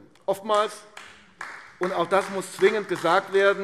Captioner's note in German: Beifall AfD